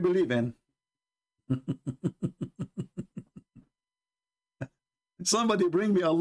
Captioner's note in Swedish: Skratt